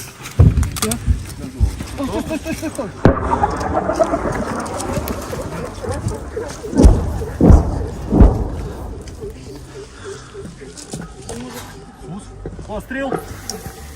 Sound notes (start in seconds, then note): 2.9 incoming fire; 6.7 cassette munitions bursting in the air